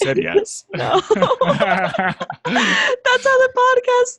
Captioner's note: both laugh